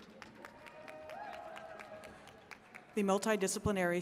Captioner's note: attendees cheering and clapping